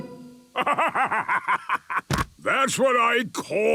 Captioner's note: bursting laughter